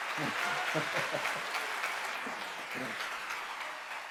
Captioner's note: chuckling